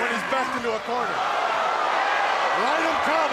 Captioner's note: crowd cheering